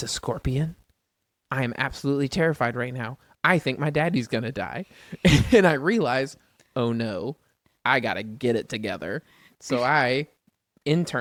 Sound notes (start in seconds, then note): 5.2 laughs; 9.3 laughs